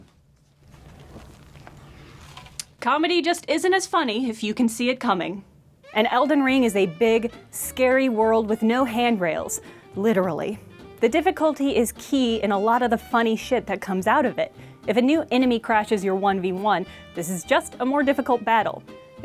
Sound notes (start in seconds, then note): 0.5 the sound of face gently being released from cream